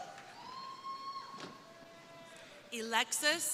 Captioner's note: crowd cheering